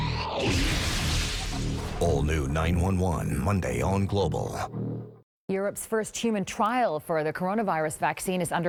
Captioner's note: glass breaking